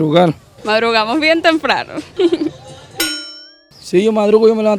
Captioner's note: laughs